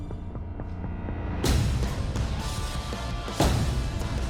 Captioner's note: thunking